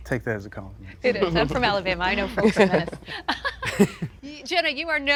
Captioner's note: chuckles